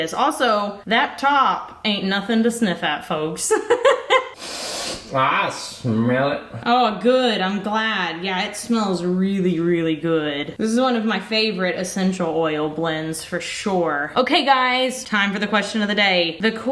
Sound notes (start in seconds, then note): 3.5 laughs; 4.3 sniffs